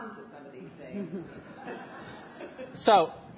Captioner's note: audience laughs